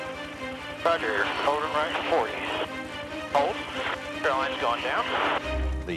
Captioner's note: radio chatter